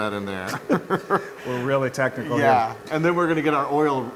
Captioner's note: laugh